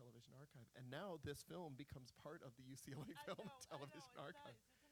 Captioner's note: laughing